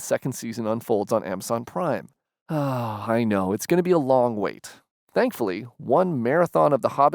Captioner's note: sigh